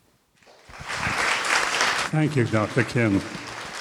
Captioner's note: applause